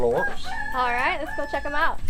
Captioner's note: chicken clucking